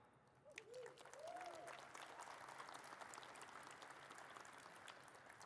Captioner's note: audience cheers and claps